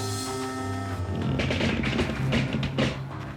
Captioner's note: rumbling and creaking